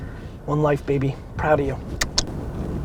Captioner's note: kisses